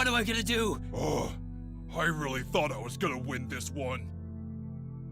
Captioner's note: sigh